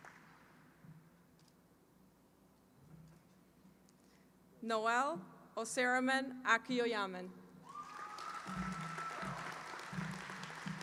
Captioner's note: applause